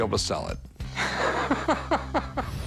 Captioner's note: laughs